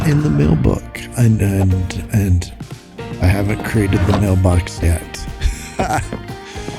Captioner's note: laughs